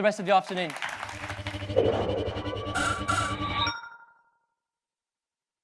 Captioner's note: audience applauds; futuristic sounds